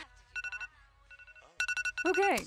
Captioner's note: alarm